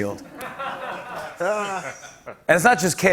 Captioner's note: laughter